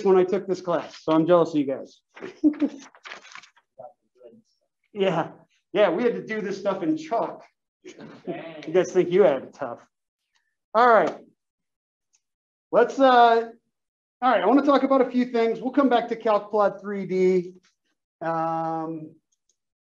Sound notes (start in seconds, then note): 2.2 laugh; 7.9 laugh